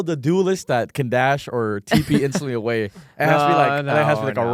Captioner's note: laughs